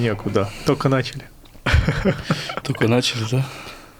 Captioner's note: sighs